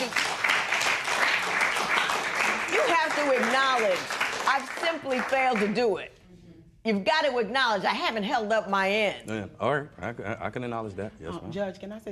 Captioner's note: applause